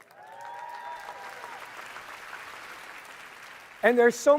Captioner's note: audience cheering and applauding